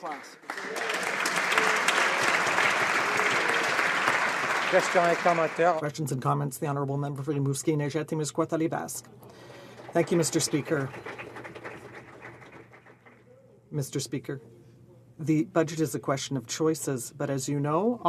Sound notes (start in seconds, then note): 7.8 applause